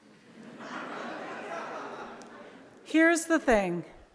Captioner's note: audience laughs